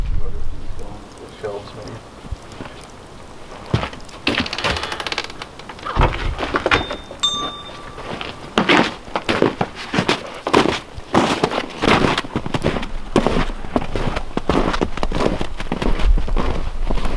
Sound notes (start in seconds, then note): 1.7 mumbles; 6.3 bell clangs; 10.8 snow crunching